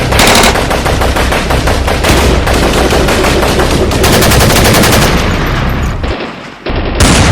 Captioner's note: gunshots